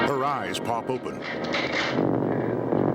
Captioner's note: dramatic chord; rifle cocking; gunshot